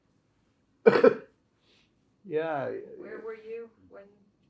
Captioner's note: coughing